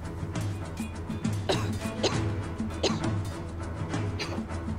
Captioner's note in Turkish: Öksürük sesi